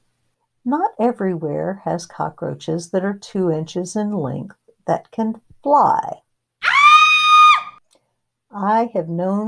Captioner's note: scream